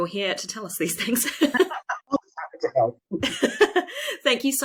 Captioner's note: laughs